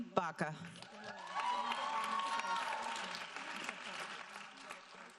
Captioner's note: audience applauding